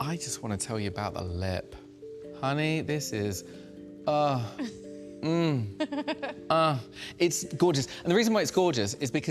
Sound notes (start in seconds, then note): 5.5 laughs